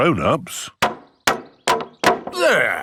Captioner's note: hammering